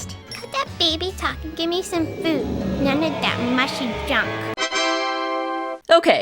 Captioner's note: ta da sound